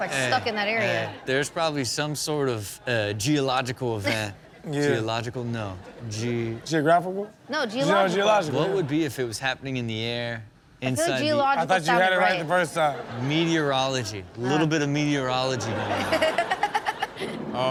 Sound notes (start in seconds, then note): 12.6 audience laughs; 15.4 audience laughs